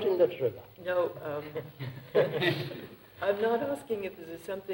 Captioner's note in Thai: เสียงหัวเราะ